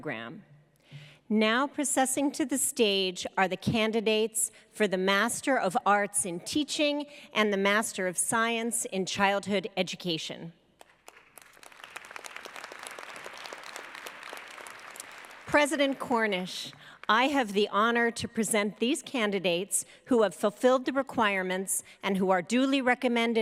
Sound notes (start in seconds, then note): 12.5 applause